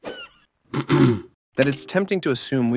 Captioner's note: ahem